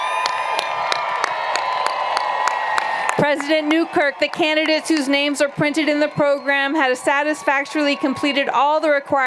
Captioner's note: cheers and Applause